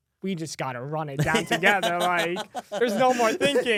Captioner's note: laughs